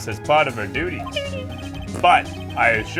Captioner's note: fart noise; quietly